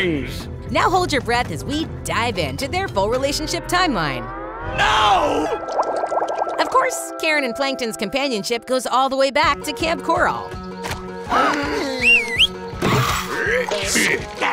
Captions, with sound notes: Now hold your breath as we dive into their full relationship timeline. No! Of course, Karen and Plankton's companionship goes all the way back to Kamp Koral. - [gasps] - [whistles] [grunting]